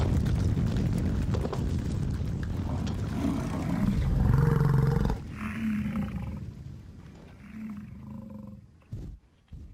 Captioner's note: sound of buffalo running; sound of buffalo running and growling